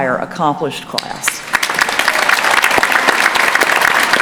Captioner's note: applause